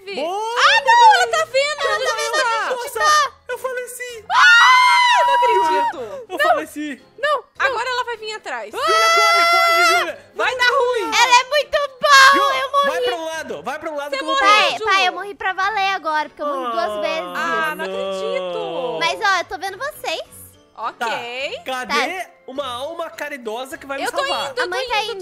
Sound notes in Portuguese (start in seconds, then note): 8.7 grita